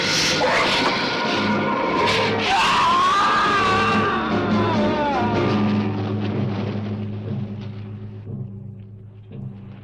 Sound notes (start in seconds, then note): 2.4 man screaming